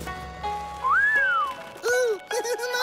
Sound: whistling

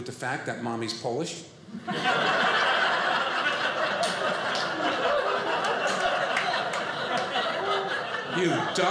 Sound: audience laughing

